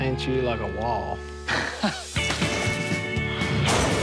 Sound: laughing

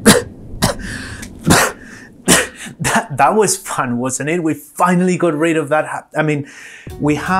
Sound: coughs

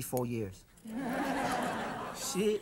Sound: audience laughs

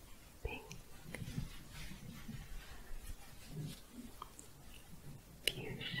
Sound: shuffling

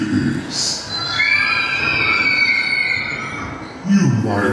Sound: children screaming

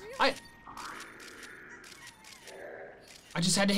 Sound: photo snapping

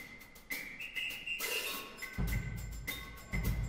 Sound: whistling

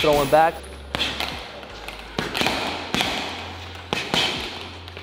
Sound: punching sounds

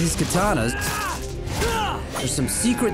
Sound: grunting

